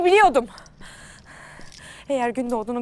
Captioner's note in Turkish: Nefes sesleri